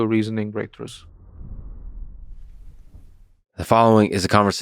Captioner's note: graphic whooshing